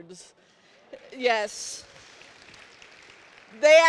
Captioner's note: applause